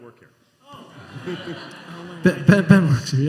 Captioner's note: laughter